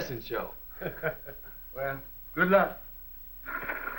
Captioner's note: laughs